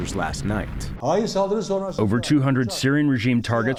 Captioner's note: through translator